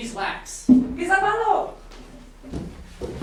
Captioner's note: speaking grammelot